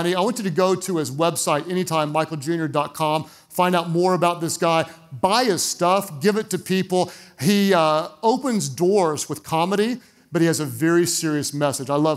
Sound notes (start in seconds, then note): none